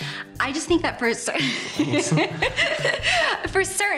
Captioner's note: laughs